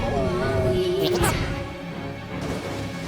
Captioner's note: exclaims